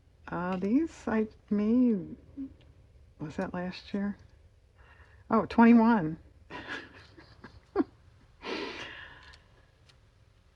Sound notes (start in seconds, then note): 6.6 laughs